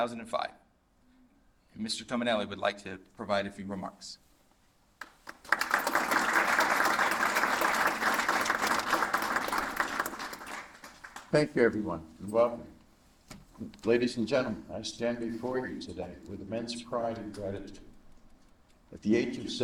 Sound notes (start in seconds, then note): 5.0 applause